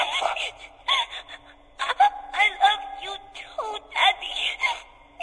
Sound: sobbing

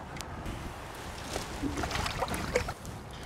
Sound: splashing

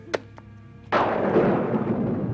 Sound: thunder

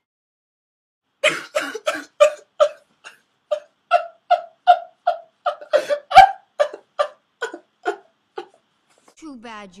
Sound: sobs

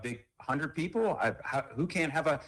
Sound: ~audio distortion~

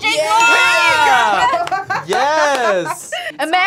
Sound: laughs

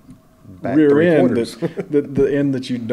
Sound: laughter

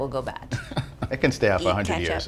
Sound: chuckles

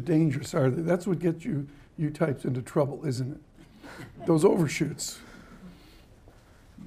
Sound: laughter

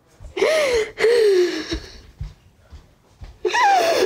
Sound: sobbing

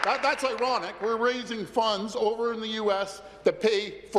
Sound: applause

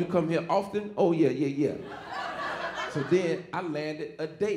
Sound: audience laughing

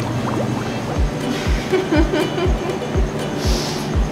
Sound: laughter

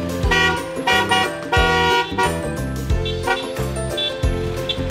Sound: car horn honks

